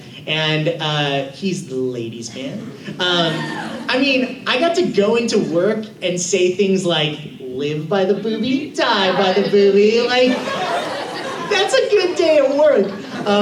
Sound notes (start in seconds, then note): 10.0 laughter